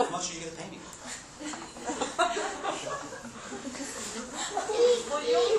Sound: laughter

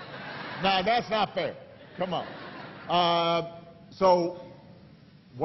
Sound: laughter

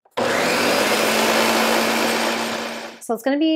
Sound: blender whirring

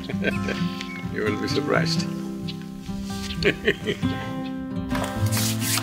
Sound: laughs

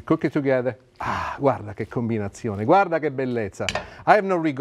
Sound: speaking Italian

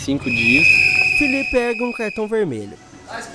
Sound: whistle

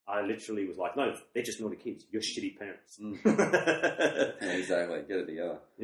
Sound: laughs

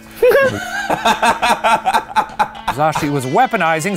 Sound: laughing

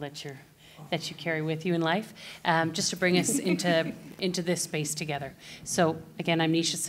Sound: laughter

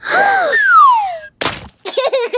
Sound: gasps; laughter

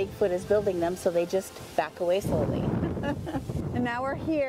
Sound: chuckles

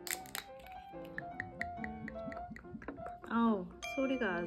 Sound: pouring

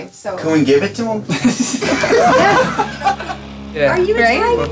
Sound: laughter

